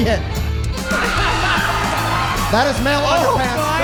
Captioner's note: audience cheering and laughing